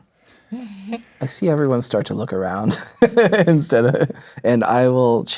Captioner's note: chuckles; laughing